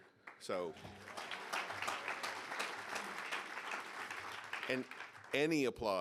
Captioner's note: audience applauding